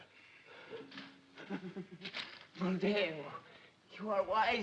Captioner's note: giggles nervously